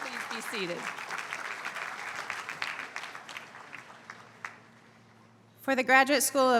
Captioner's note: applause